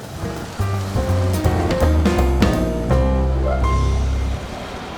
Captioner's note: car engines rumbling